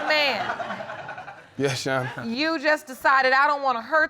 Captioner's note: audience laughing